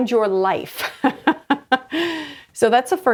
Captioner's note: laughs